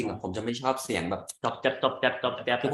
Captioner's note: imitatiing eating sound